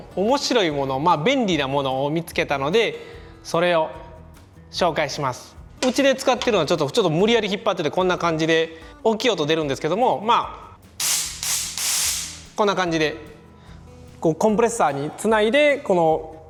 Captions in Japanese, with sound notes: 面白いもの 便利なものを見つけたので それを紹介します うちで使ってるのはちょっと無理やり引っ張ってきてこんな感じで 大きい音出るんですけども （エアーの音） こんな感じで コンプレッサーに繋いで